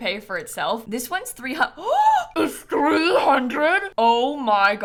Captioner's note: gasp